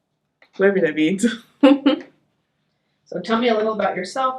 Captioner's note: laughs